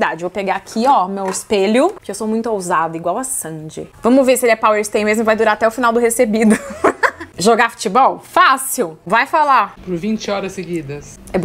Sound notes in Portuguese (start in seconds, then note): 6.4 risos